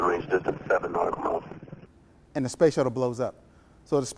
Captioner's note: audio blurs